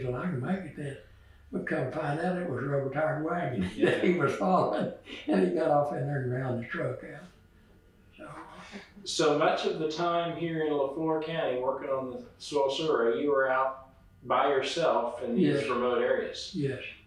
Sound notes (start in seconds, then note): 3.3 laughs